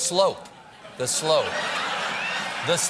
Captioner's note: laughter